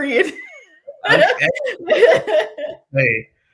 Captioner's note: laughter